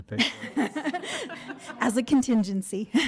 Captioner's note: board laughs